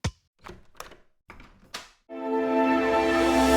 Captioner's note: unlocking door sound